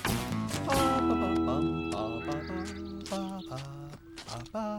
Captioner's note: Bob Humming